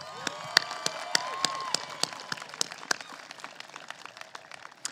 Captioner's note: applause